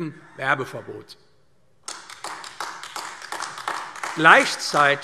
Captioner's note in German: Beifall AfD